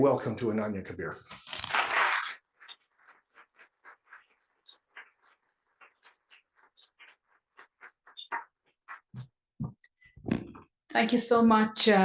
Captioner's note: applause